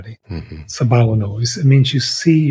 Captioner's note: speaking in foreign language